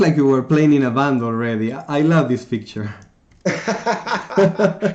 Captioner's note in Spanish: Ambos se rien